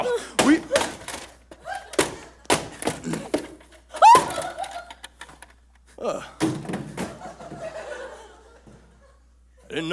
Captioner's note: banging and falling